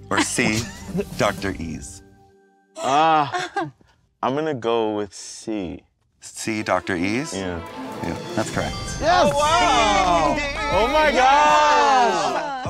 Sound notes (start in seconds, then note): 2.8 chuckles; 8.9 twinkling